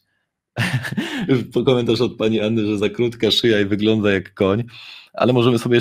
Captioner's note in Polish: śmiech